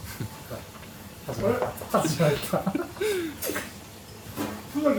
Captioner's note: laughs